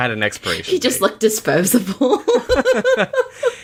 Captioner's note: laughs